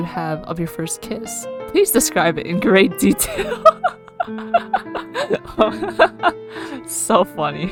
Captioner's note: laughs